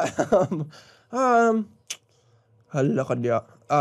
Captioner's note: chuckles; mouth clicks